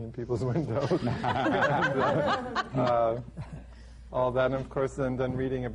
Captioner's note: laughter